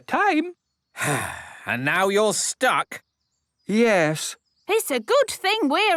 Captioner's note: sigh